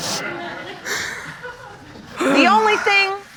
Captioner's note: sighs